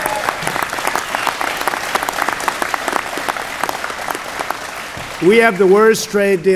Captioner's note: applause